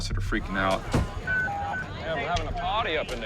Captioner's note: beeping; slam